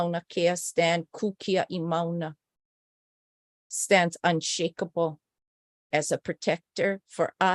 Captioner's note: non-english speech